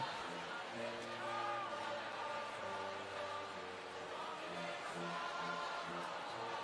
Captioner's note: crowd chatters distantly; choir singing distantly